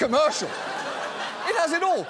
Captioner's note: audience laughs